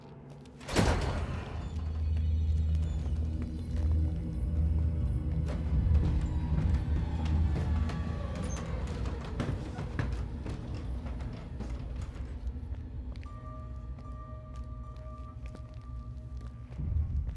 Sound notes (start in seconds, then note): 0.7 door squeaks; 2.3 eerie music; 5.5 stairs squeaking; 13.8 eerie music continues